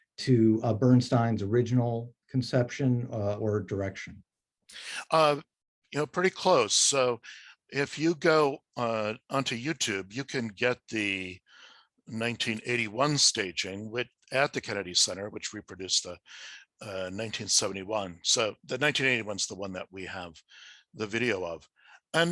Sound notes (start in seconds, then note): none